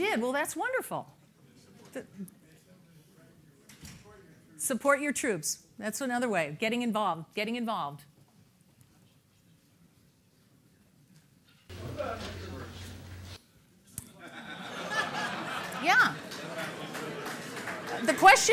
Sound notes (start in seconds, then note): 10.9 laughter